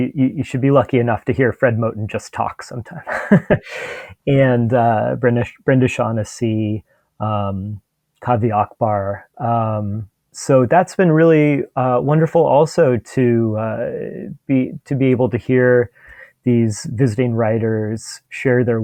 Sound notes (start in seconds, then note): 3.0 laughs